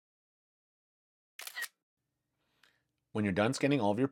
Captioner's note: camera Click